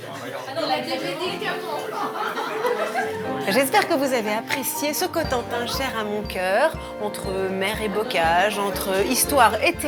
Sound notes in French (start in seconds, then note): 1.7 rires